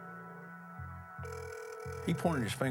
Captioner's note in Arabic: رنين الهاتف